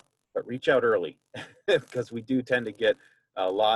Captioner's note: laughs